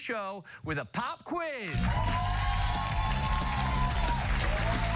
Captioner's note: cheers and applause